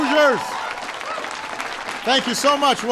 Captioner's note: applause